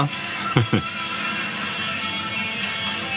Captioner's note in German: lacht